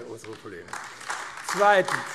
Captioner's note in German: Heiterkeit und Beifall AfD